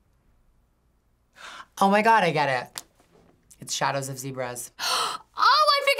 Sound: gasps

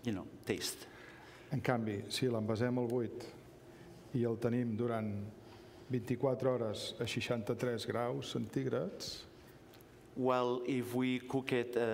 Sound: speaking catalan

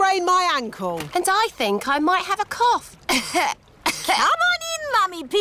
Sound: coughs

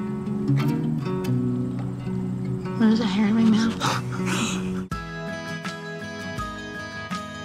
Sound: both laughing

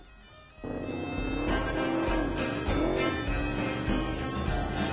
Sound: vehicle engine roars; celtic punk music

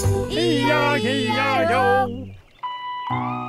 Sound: barking

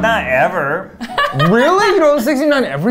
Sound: laughing

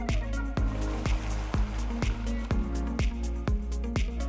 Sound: water burbling

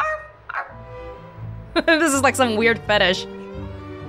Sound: chuckles

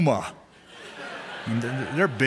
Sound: laughter

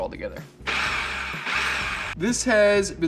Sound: food processor whirring

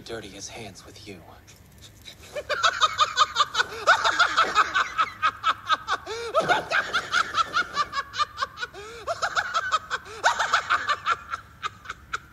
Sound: ugliest laughter like he's shitting himself

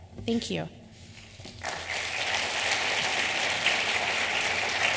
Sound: applause

